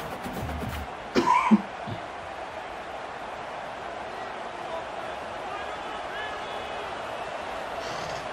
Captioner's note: laughs